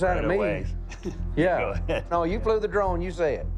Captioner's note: chuckles